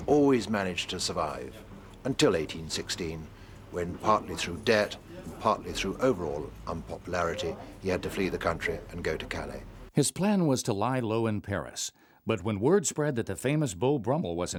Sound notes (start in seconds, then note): 10.3 voiceover